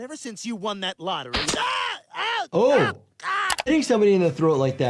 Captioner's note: Quagmire screaming